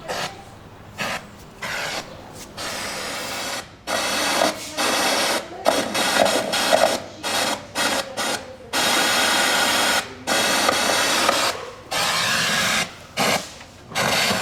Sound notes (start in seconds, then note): 1.1 static from</i> <i>television